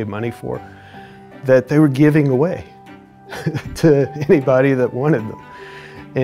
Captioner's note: chuckles